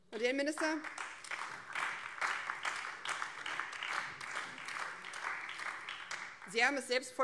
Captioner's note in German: Beifall BÜNDNIS 90/DIE GRÜNEN